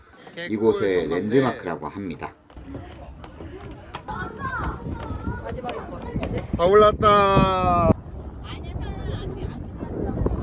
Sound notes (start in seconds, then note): none